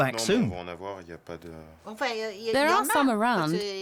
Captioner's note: both speaking French